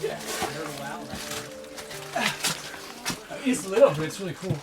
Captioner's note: speaking faintly